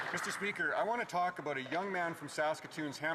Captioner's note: applause